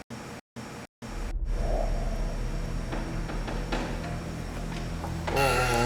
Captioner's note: the sound of opening the door